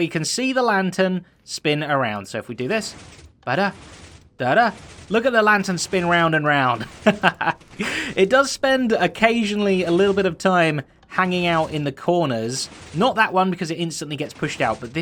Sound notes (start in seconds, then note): 6.8 chuckles